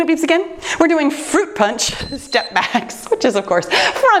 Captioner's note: timer beeps